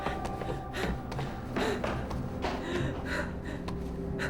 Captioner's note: heavy breathing